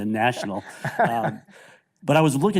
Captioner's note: chuckles